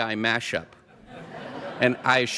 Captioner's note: laughter